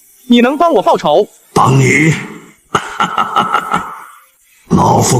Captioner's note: sinister laughter